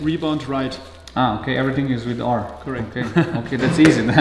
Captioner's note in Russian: на английском